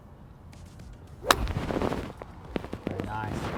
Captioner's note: club smacks